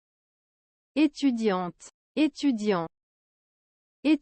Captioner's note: French